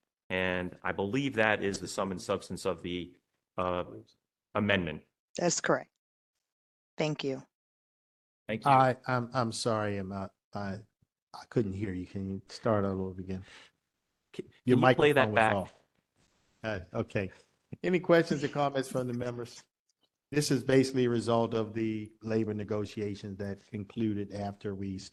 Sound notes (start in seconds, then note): 14.3 laugh